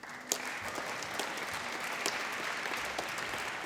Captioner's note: applause